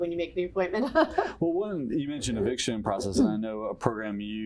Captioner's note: chuckle